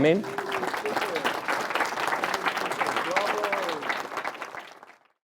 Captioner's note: applause